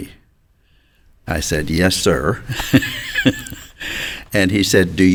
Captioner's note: chuckles